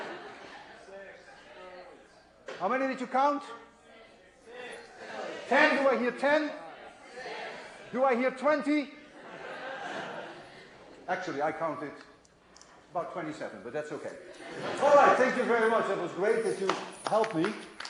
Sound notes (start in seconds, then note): 1.9 crowd responds; 9.1 laughter; 14.3 laughter